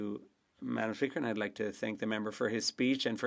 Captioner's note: speaking French